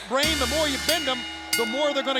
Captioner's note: bell rings